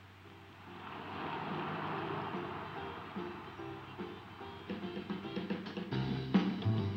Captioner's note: car engine roaring; uptempo jazz music